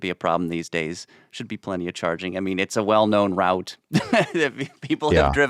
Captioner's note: laughs